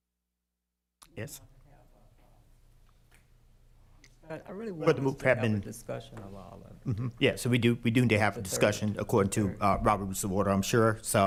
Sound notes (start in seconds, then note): 1.6 speaking quietly; 8.5 continues quietly